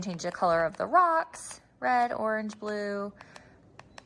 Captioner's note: remote clicks